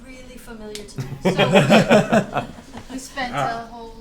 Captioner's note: all laugh